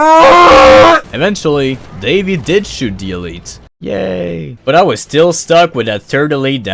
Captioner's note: yay sound